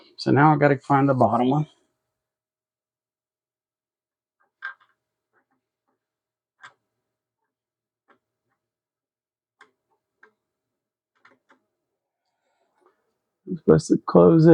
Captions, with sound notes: So now I've gotta find the bottom one. (clicking) I'm supposed to close